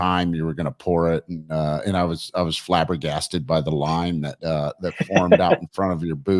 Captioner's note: laughs